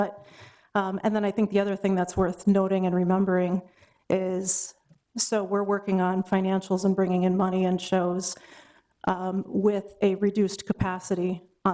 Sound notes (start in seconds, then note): none